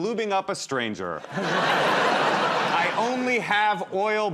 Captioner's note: laughter